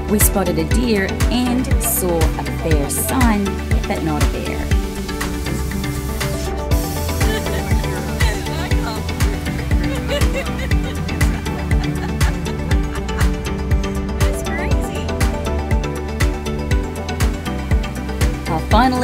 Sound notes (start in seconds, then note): 10.5 laughs; 15.8 upbeat music